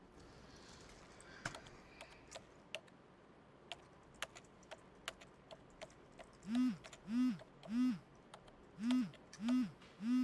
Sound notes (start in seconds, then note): 6.9 phone buzzing